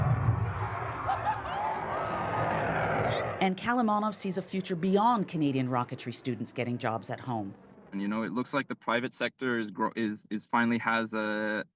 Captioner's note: cheers and applause